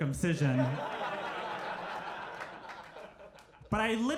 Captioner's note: crowd laughs